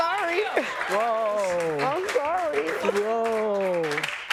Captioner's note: sobbing